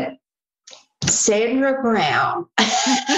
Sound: laughter

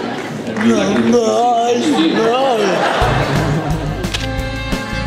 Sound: laughter

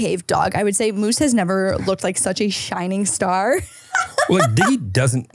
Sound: laughs

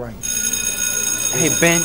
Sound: bell rings

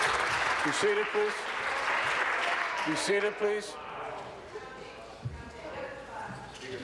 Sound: applause

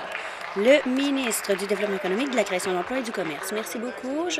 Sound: applause

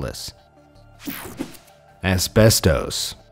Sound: image whooshing

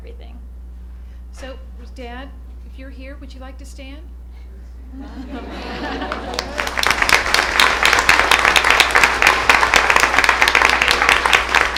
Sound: applause

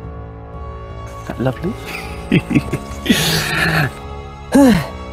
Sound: laughs; inhales

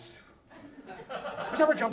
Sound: audience laughs

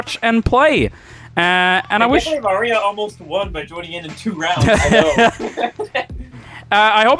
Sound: laughing

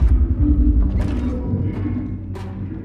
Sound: door shutting

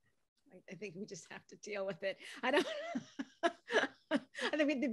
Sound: laughs

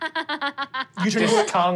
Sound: laughing

